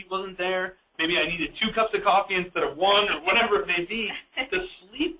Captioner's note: laughs